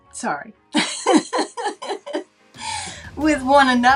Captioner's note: laughing